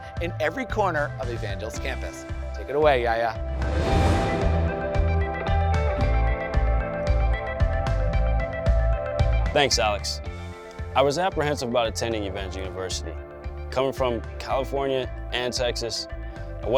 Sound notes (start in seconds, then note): 3.5 air whooshing; 4.6 upbeat music